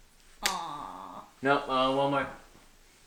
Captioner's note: kissing